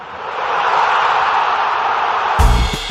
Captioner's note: cheering; upbeat music